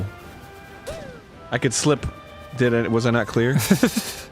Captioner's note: nervous laughter